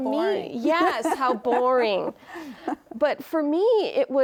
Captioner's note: laughing